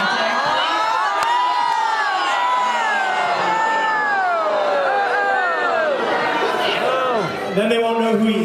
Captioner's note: riots; riots